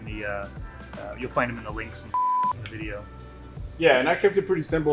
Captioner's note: beep